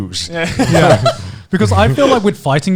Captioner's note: all laughing